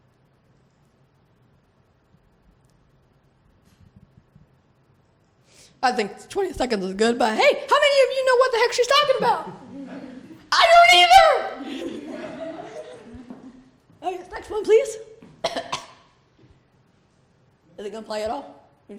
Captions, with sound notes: I think 20 seconds is good but hey, how many of you know what the heck she's talking about? I don't either! (laughter) Next one, please. Is it gonna play at all?